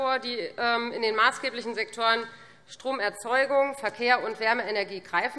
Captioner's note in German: none